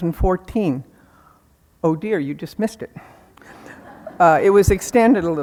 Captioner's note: audience laughing